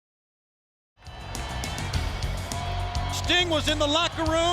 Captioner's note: crowd cheering; upbeat rock music